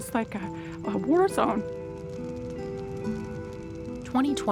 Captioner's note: fire crackling